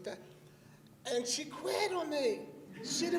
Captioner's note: laughter